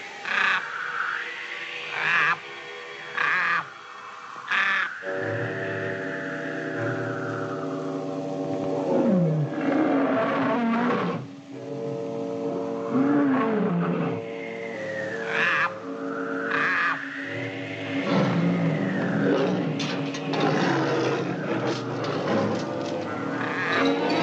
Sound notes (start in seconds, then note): 0.2 A Raven Caws; 8.8 A Wild Animal Roars; 15.2 croaking